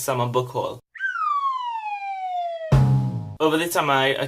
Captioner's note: slide whistle + drum sound effect